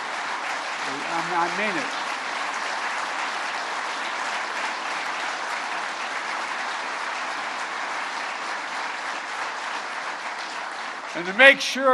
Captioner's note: applause